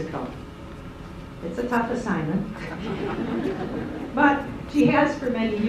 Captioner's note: laughter